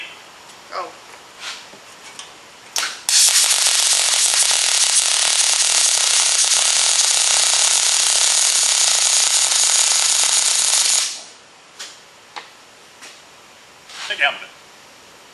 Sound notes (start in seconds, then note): 2.7 welding